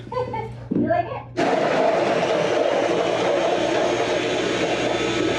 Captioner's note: grinding coffee